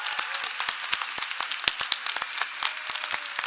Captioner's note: cheers and applause